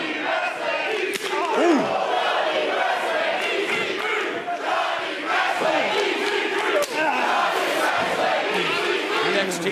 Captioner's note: fans chanting